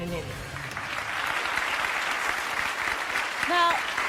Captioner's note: audience applauding